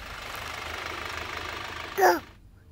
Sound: van engine running

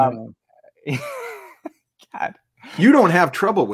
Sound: laughs

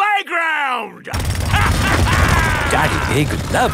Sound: drilling and laughing

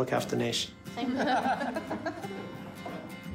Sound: all laugh softly

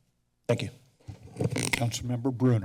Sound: mic sounds

